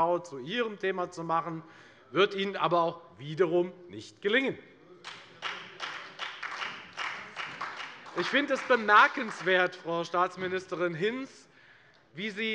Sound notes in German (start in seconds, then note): 5.0 Beifall bei der FDP und der SPD